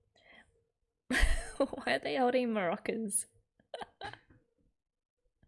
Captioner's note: laughs